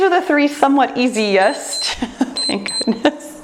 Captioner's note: timer beeps